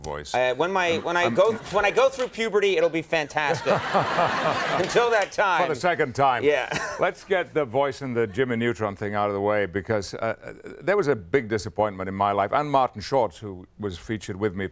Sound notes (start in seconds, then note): 3.4 laughter